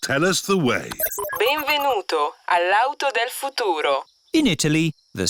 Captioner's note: chuckles; beeps; speaks italian